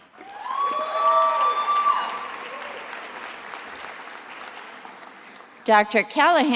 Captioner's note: attendees applauding and cheering